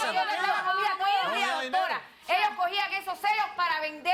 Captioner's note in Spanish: Hablan al unísono